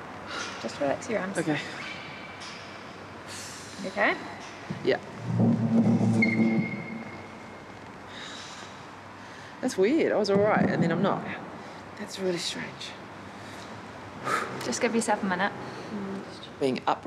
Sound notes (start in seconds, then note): 0.1 exhales; 3.3 breathes deeply; 8.1 sighs